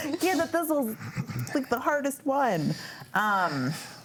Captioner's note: panelists laughing